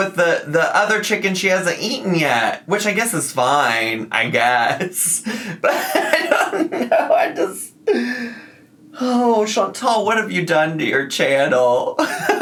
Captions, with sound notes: with the other chicken she hasn't eaten yet. Which I guess, is fine, I guess, but I dunno. (laughing) I just, oh, Chantal, what have you done to your channel?